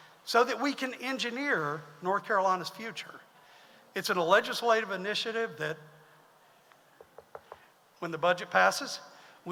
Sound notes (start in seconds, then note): 7.1 knocks on podium